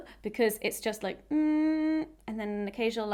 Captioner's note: vocalising; vocalising